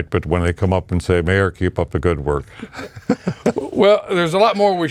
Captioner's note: laughs